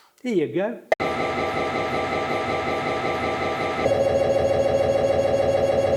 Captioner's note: mri noises